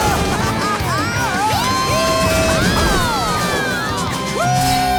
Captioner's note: cheering